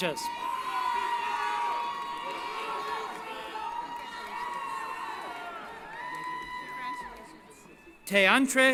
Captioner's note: cheering